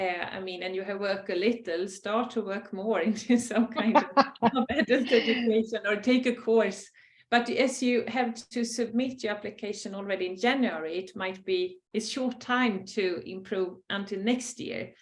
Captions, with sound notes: I mean, and you have work a little, start to work more. [Laugh] Or take a course. But, as you have to submit your application already in January, it might be a short time to improve until next year,